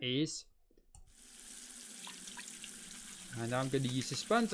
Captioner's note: sink sound